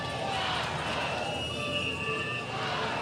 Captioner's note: cheering